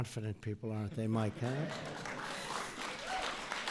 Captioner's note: applause